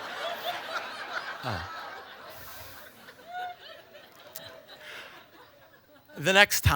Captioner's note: audience laughter